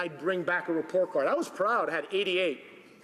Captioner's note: speaking Italian